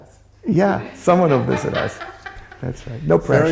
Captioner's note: laughter